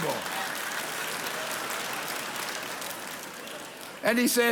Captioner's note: congregation applauds